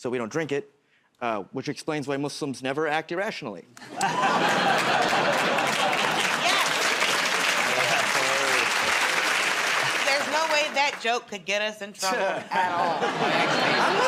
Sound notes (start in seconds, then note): 3.8 laughter and applause